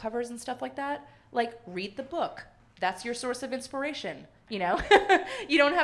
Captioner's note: laughs